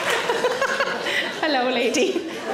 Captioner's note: audience claps; Sarah laughs